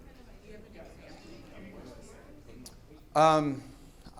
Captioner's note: audience chattering